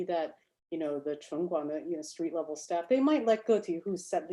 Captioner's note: speaks Chinese